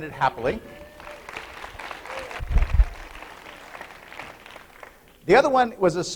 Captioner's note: applause